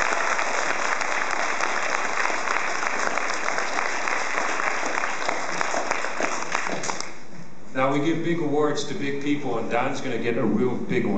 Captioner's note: applause